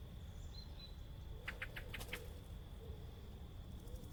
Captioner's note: insects chatter lightly